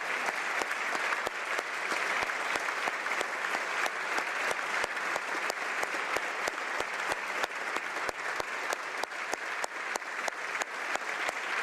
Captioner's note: applause